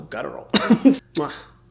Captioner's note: Hyram giggling